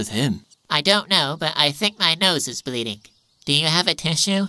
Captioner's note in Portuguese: Nasal